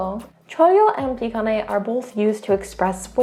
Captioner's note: speaking in Korean; speaks in Korean; speaking in Korean